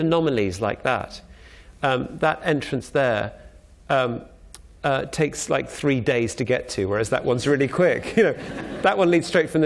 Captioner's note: laughter